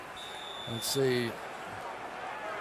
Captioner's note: whistle blowing